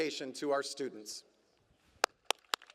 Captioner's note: applause